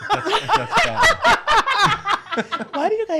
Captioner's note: laughs